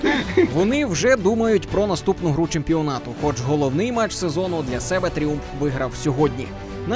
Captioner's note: voiceover